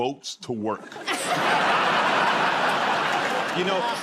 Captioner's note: laughter